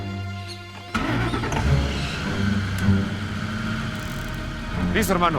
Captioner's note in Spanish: Ruido del vehículo